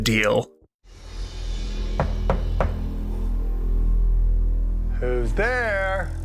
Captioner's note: knock on Door